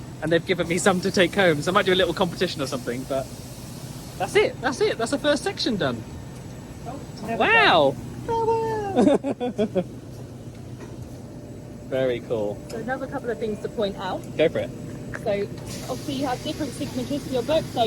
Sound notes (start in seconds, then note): 8.7 laughing